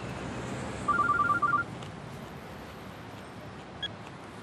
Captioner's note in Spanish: suena el celular